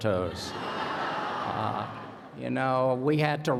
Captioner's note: laughter